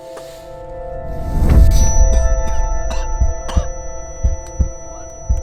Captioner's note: high-pitched ringing